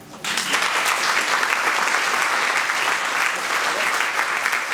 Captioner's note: audience applauding